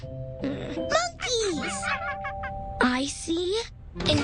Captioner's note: monkeys chatter